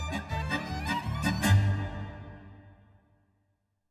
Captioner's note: laughing